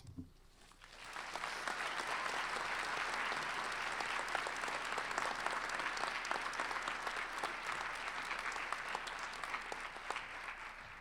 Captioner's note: applause